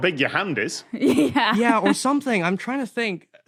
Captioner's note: laughs